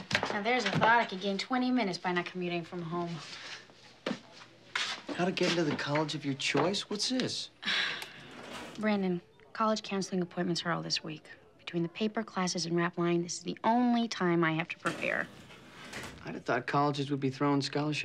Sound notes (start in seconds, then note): 7.6 sighs